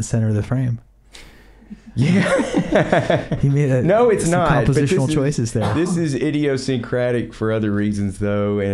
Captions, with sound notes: the center of the frame. - Yeah. (laughs) No, it's not. - You made some compositional choices there. - This is idiosyncratic for other reasons though.